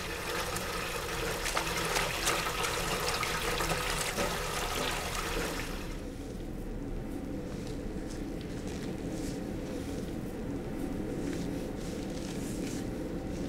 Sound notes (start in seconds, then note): 6.1 background machine hum